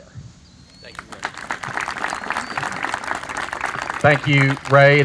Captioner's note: audience applauds